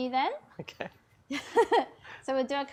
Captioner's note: chuckles